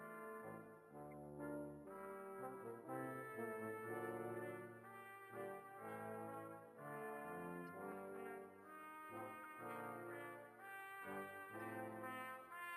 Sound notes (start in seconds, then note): 2.1 speaking French